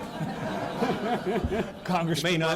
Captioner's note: laughter